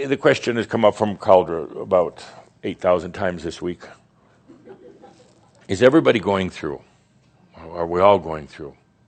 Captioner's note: a few snickers